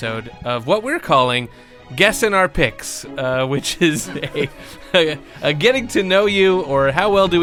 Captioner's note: laughter